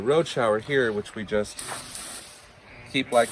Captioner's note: water spraying